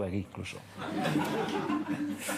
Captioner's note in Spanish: Risas